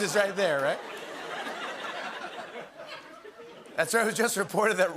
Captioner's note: laughter